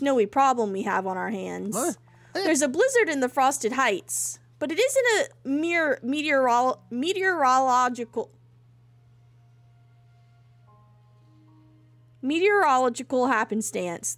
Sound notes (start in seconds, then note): 5.2 stumbling over "mere meteorological"; 8.4 silence